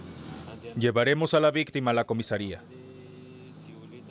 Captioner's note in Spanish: Audio hablado en francés